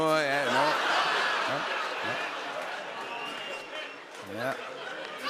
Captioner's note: laughter